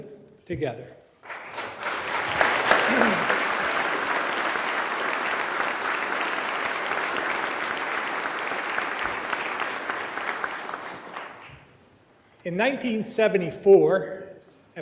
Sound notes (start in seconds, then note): 4.2 applause